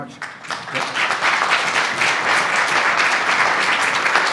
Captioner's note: audience applauds